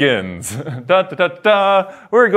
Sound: hums dramatically

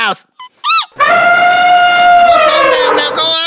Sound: elephant rage

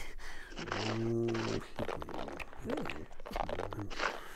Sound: crunching

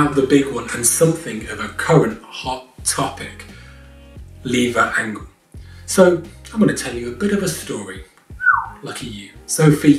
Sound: whistles

